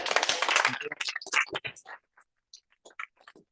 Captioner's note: applause